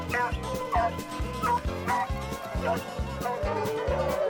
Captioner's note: dogs howling